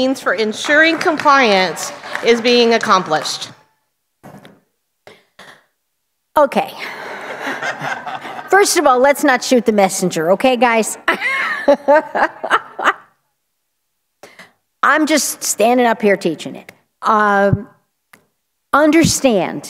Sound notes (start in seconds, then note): 4.1 applause; 7.0 laughter